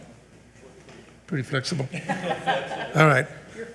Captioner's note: board laughs